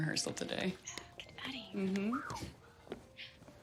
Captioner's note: Sam whistles